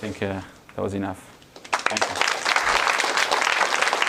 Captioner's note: applause